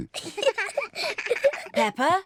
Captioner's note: both giggle